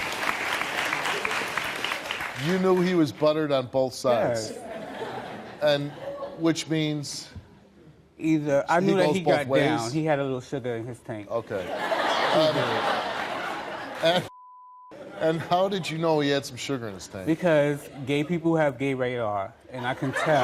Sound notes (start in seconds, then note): 11.5 audience laughing